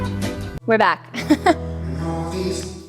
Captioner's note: upbeat music; slow music; laughs